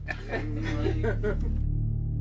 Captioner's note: people laughing